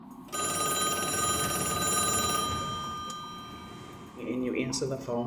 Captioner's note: pay phone ringing